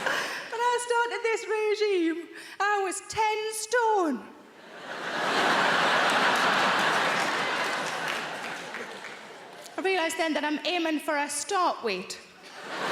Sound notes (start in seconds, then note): 0.0 laughs; 4.6 audience laughing